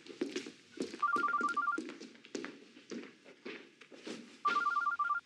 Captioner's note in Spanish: suena el celular